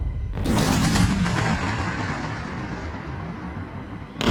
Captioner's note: cannons fire